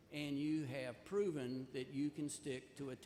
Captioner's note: none